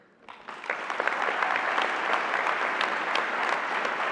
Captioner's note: applause